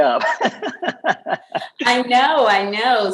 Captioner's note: laughter